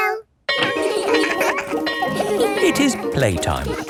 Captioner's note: laughing; bell ringing